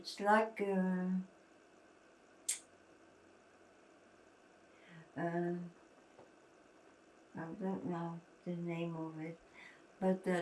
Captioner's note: pauses 6 seconds